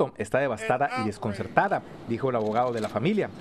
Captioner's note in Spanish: HABLA EN INGLéS